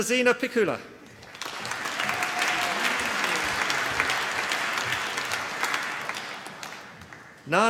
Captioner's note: applause